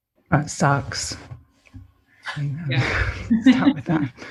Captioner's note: laughs